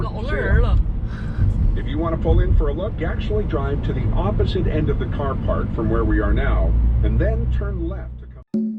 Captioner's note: background sound - Gypsy Maui app